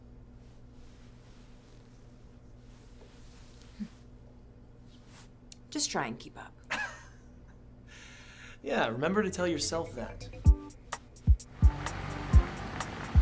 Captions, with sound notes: - Just try and keep up. (Declan laughs) - Yeah. Remember to tell yourself that. (playful music)